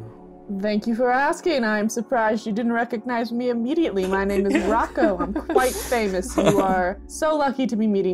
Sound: laughter

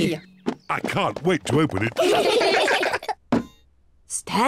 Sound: all giggle

